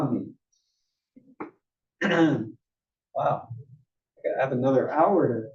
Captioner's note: cough